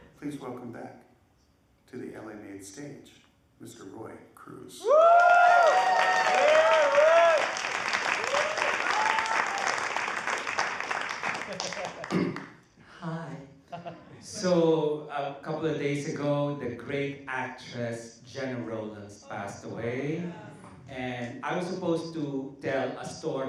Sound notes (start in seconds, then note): 5.1 applause